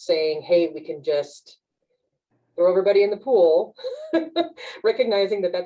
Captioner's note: laughs